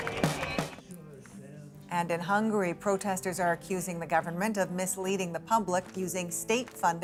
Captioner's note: shots